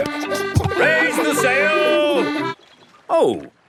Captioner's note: kids laughing